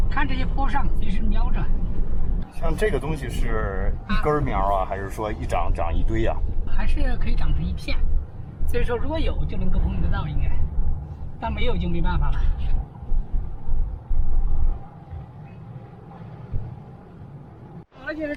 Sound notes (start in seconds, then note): 2.7 speaking Chinese